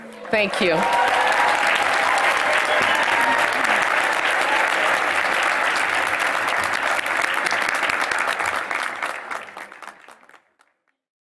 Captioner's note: applause